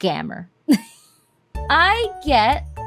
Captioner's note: wheeze